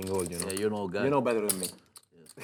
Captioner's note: voiceover